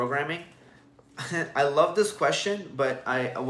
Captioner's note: chuckles